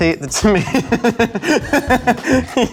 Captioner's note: laughs